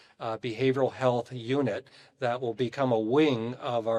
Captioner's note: none